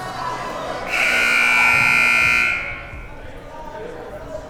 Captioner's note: buzzer ringing